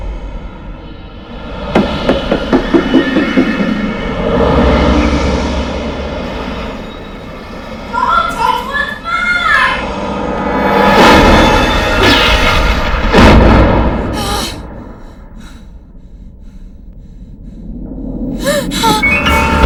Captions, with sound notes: DON'T TOUCH WHAT'S MINE! ( gasps ) ( panting ) ( gasps )